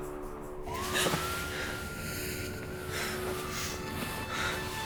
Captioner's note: Katie gasping